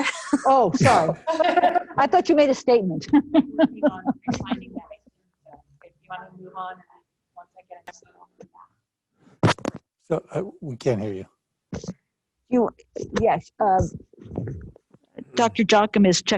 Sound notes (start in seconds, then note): 0.8 members laughing; 1.1 laughs